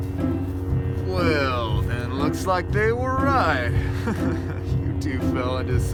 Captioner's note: chuckles